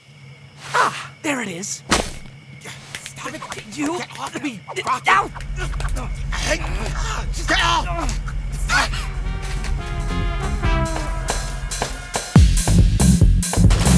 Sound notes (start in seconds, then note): 1.9 thump; 2.7 slapping; 5.0 fighting sounds